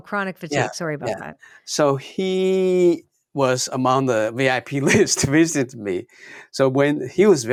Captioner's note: laughs